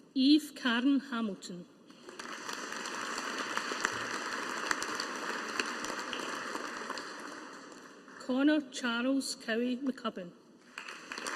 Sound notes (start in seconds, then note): 1.9 audience applauding; 10.6 audience applauding